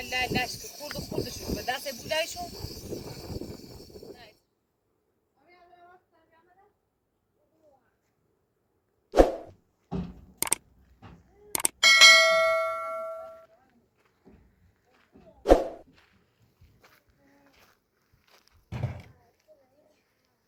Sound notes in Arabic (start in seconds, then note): 11.8 جرس